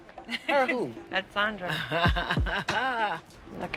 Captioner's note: laughs